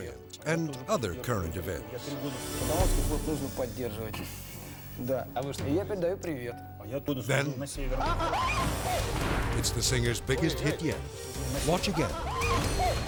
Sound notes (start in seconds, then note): 2.2 speaking in Russian; 7.7 dramatic music; 8.1 hosts screaming